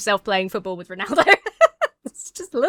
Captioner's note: laughs